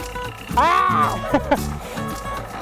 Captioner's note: frustrated screaming intensifies